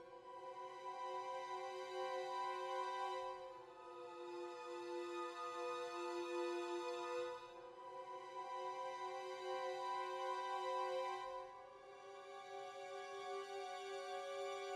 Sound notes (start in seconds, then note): none